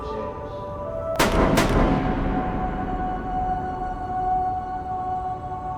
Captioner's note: distant gunshots firing